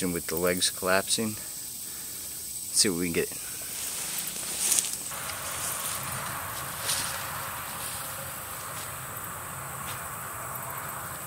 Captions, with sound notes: with the legs collapsing. Let’s see what we can get. [ car noise in distance ] [ line whipping ]